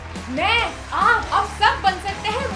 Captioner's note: applause